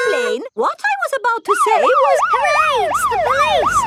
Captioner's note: siren wailing